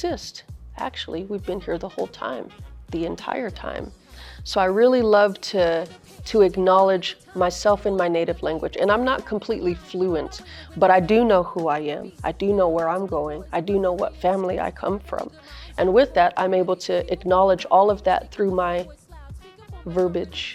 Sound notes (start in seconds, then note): 10.4 inhales